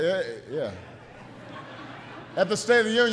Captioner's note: laughter